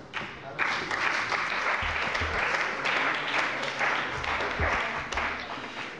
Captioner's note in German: Beifall bei der CDU und dem BÜNDNIS 90/DIE GRÜNEN